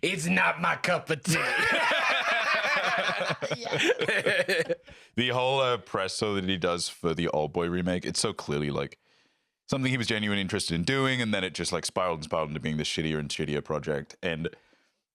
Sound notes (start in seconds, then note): 1.2 all laughing; 3.9 laughing